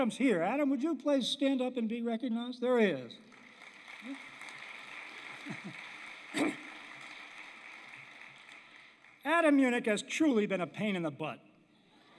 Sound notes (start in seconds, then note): 3.2 applause; 11.8 laughter